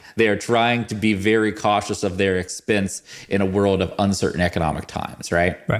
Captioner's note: none